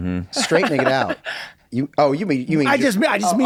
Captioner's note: laughs